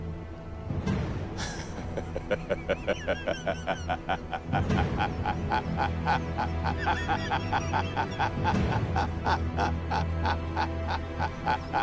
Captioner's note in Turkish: Kahkaha atıyor